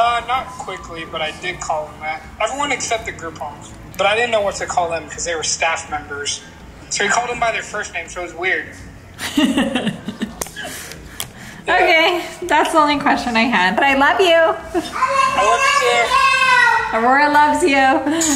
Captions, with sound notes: - Not quickly, but I did call them that. Everyone except the group homes, but I didn't know what to call them. Because they were staff members. So we called them by their first names. So, it was weird. - (laughing) Okay. That's the only question I had, but I love you. - I love too. - (yelling) I love you! - Aurora loves you.